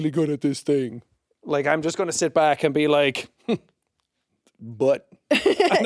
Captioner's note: scoffs; laughs